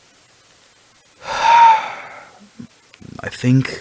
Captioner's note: sigh